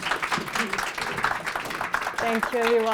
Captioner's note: applause